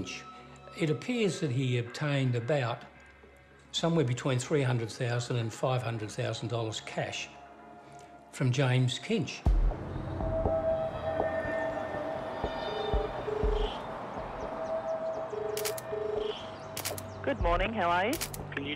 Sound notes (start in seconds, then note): 12.8 phone rings